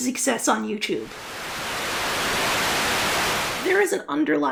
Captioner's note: Static